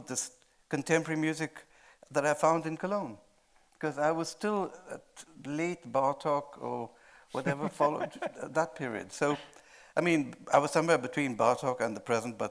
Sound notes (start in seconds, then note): 7.3 laughing